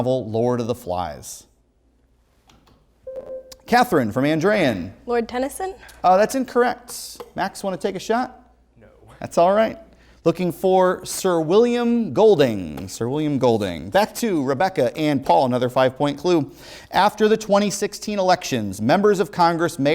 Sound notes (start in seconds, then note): 3.1 ringing